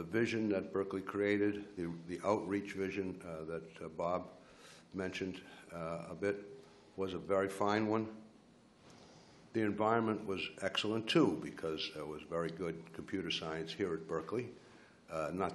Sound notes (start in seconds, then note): none